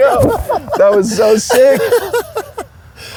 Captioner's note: laughs